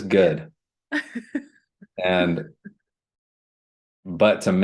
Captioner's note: laughter